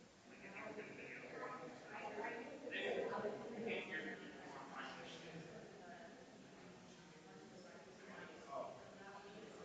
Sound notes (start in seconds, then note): 3.3 people chattering distantly continues